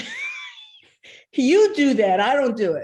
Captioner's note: laughing